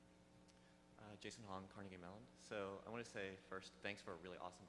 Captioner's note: voiceover